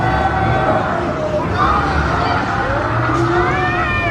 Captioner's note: riders scream